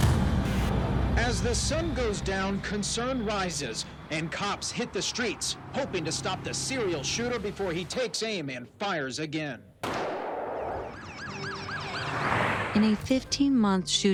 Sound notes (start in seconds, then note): 9.8 gunshot; 10.6 sirens wailing